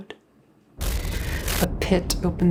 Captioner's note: glitch static